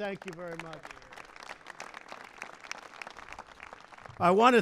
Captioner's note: applause